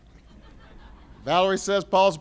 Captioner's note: laughter